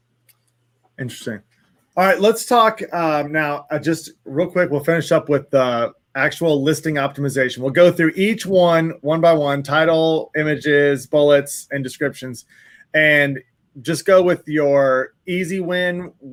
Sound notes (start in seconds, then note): none